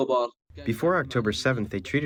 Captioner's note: through translator